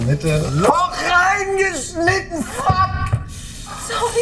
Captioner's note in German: schreit